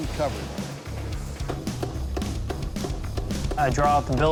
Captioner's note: machine thumping